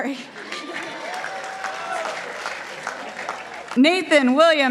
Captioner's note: participants applauding